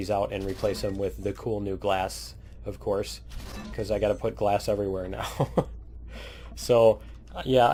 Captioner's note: laughs